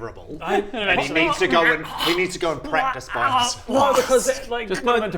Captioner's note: tormented noises